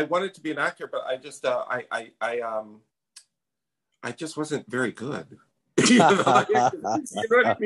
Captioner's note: laughs